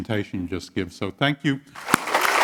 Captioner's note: applause